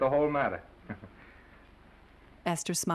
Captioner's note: Norman chuckling nervously